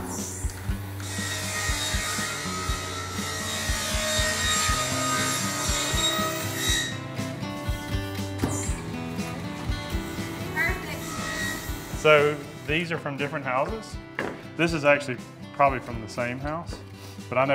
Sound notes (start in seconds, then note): 0.7 saw machine noise; 6.9 country music